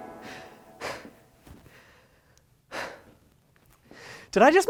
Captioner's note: heavy breathing